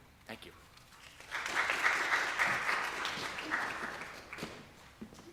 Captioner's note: audience applause